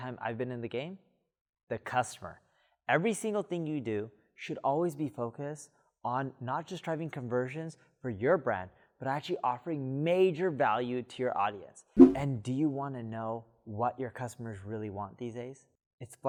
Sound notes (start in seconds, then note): 12.0 air whooshing